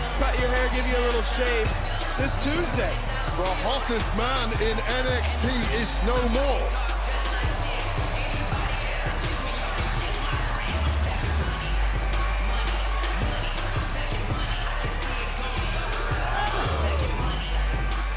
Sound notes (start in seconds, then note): 7.4 crowd cheers